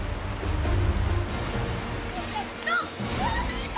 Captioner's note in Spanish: Sonido de la corriente